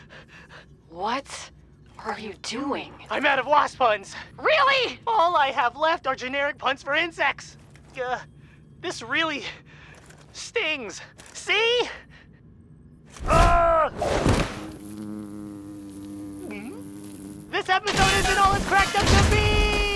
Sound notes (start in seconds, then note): 9.8 mechanical shifting; 13.3 high action shout; 14.2 wasp buzzing; 14.3 crash; 16.6 nervous gulp